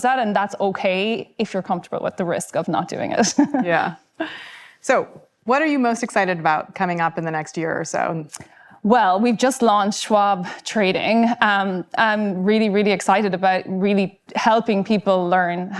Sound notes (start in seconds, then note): 3.3 laughing